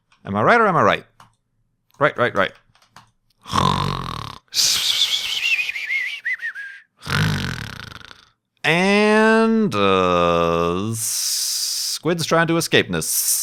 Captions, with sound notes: Am I right or am I right? Right, right, right! *snoring* Aaaaaaannnnd aaaaaa-squids trying to escape-ness